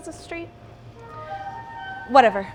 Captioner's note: funny honking